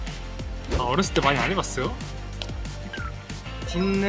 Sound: squabbling

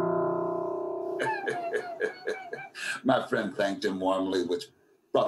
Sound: dark piano music; laughs

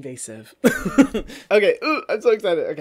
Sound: laughs

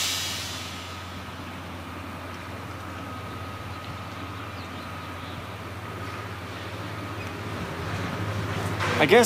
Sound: wind blowing

